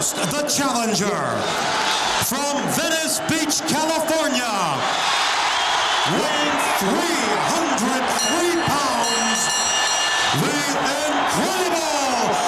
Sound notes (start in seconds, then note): 7.9 bell ringing